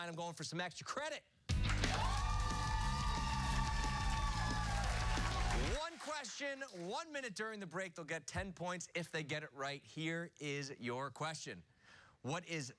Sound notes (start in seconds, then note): 1.5 cheers and applause